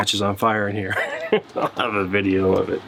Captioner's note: laughing